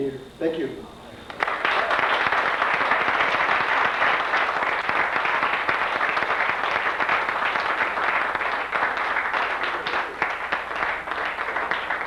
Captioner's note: applause